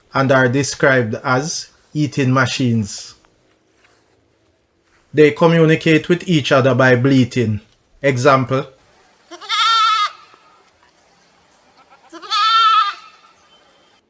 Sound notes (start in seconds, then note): 9.2 goat bleating